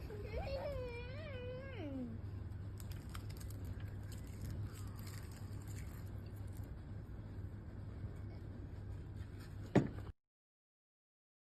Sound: bottle clunks on the table

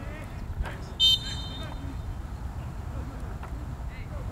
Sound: whistle blows

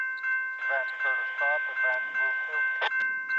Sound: conductor over radio

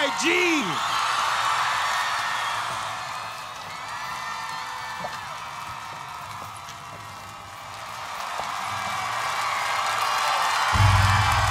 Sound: applause

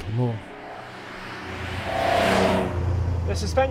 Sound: car engine roaring

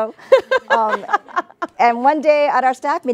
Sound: both laugh

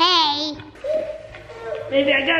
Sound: baby cries

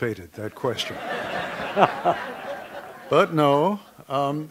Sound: background laughter

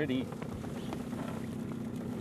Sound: boat engine running

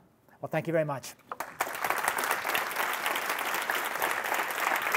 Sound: clapping

